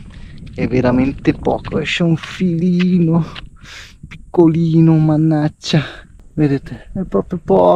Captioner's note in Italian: sbuffare